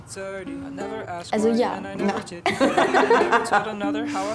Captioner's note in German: Lachen